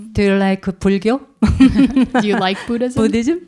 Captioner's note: speaking in Korean; laughs